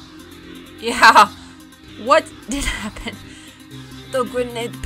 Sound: chuckling

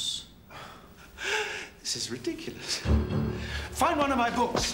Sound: laughs

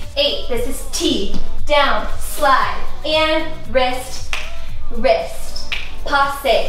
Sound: fingers snap

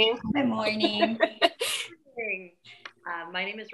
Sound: laughs

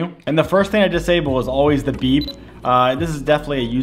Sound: camera beeps

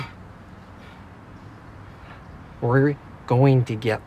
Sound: heavy breathing

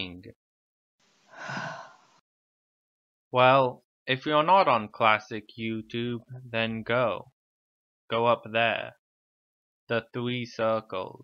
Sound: sighs

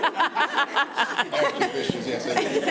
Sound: committee laughing

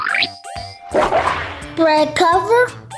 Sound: lashing whip

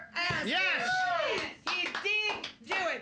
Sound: audience cheering

